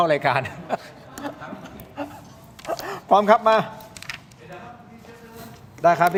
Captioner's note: laughs